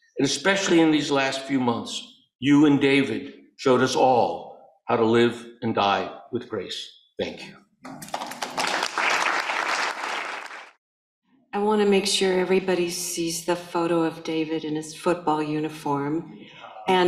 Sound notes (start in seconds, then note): 7.9 audience applauding